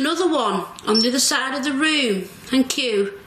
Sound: metre beeps

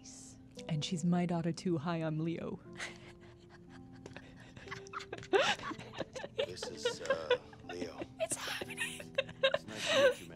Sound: quiet laughter

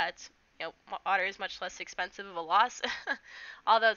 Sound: chuckles

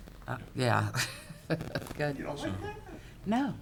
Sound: laughing

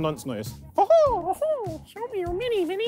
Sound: both laughing like Mickey Mouse

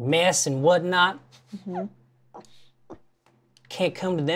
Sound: stifles laughter

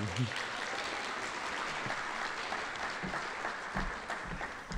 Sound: audience applauding

